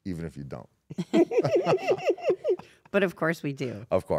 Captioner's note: laugh